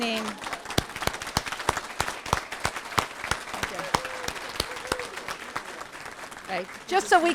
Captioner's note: applause